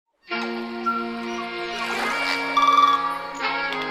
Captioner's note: wildlife sounds